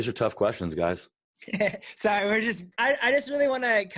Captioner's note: laughs